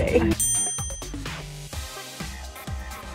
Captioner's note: bell dings